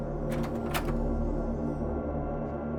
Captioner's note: door opens